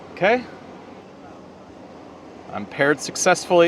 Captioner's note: visitors chattering